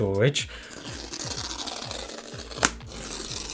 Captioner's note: paper ripping